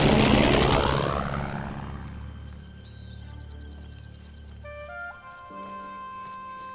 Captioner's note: guns firing; aircraft whooshing